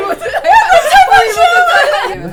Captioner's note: laughter and exclamations